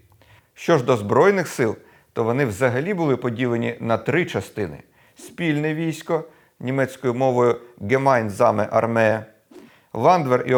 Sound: in German - Hemainzame Armee

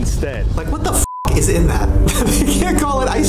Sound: beep

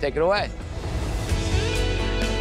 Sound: dreamy music intensifies; graphics whoosh

